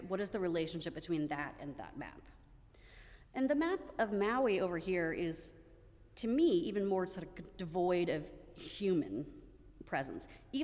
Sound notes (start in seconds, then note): none